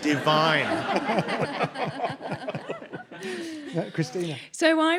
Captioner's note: audience laughs